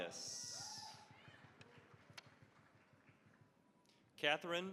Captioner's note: applause